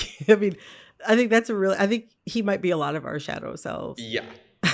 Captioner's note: laughter